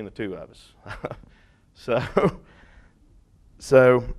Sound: laughing

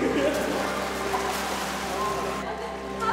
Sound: laughter; water splashes; overlapping chatter

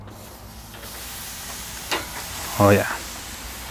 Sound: meat sizzling

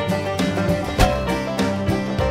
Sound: country Music; pan Hit

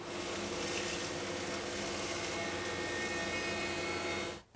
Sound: machine softly buzzing

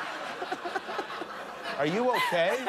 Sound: laughter

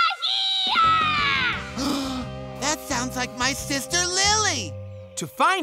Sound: gasps

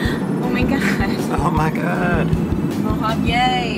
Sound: gasps

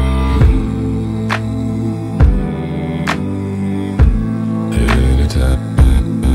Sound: continues humming

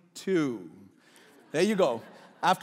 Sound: laughing

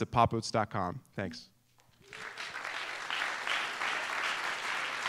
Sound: applause

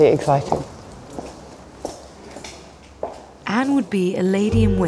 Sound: heels clack; muffled chatter

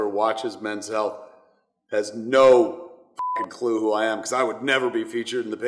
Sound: beep

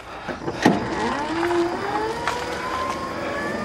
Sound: engine revs

